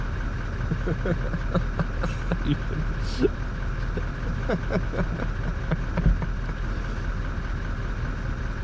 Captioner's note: slightly hysterical laughter